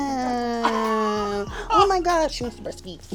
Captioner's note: laughs